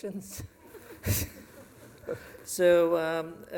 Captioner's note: laughter